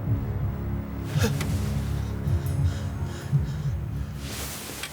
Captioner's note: James panting